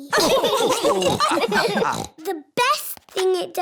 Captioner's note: laughter